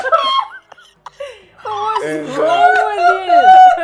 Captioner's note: laughing